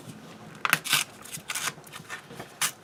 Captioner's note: tearing sound